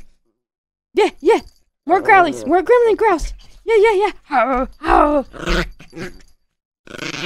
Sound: puppy gremlin noises; super puppy gremlin noises that sound like an angry cat

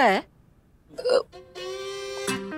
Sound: Poonam burps

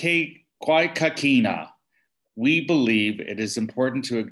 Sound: speaking Indigenous language "Kwé Kakina"

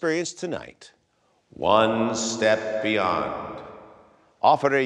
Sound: voice echoes

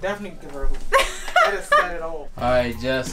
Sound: laughs

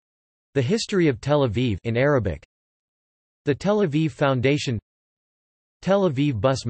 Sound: in Arabic

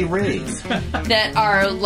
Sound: laughing

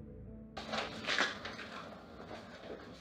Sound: door open

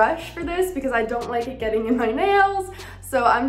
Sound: chuckles

